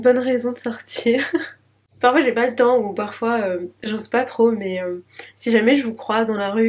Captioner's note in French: rires